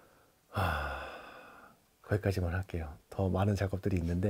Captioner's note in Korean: 한숨